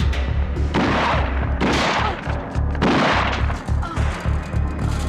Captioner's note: gunshots blasting